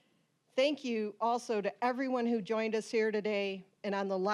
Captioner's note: none